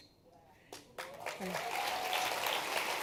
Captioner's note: applause